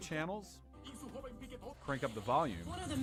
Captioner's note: speaking in foreign language